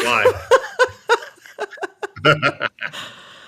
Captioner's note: laughter